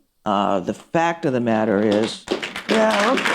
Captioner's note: applause